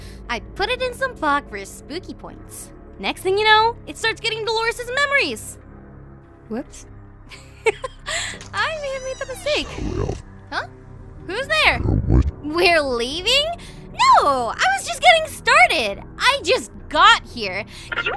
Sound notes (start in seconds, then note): 8.7 door opening